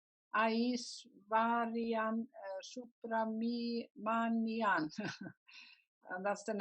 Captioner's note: chuckles